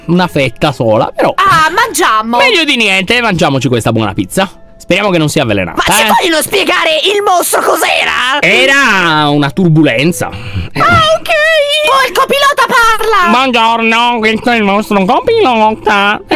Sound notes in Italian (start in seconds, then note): 11.0 con voce acuta